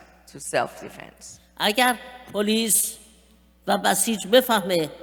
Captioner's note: speaking persian